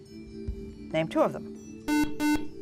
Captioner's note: buzzer